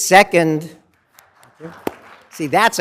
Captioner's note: applause